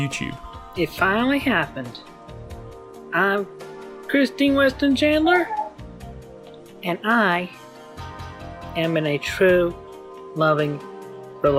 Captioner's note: dog barking